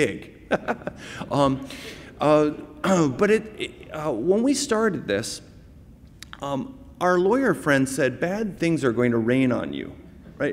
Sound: laughter

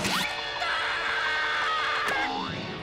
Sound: screams

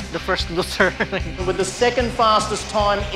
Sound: laughs

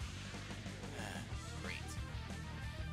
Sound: sigh

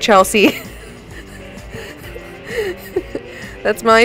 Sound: laughing

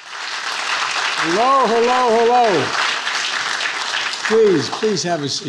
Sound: attendees applauding

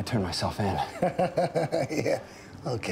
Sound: laughs

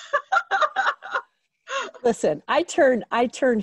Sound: laughs

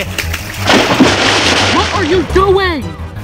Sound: splashing

